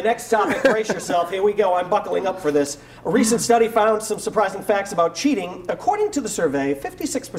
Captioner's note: laughter